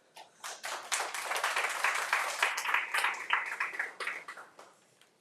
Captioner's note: audience applauding